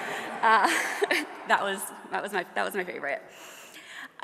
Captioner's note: audience laughs